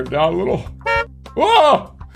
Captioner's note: honk!!